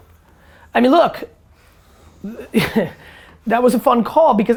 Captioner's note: chuckles